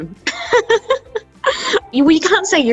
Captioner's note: laughs